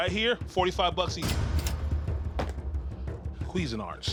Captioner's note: cash register dinging